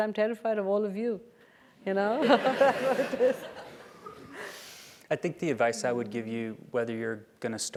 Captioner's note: laugh